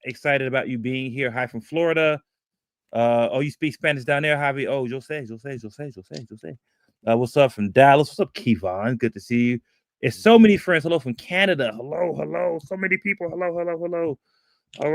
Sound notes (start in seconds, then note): 5.3 speaking spanish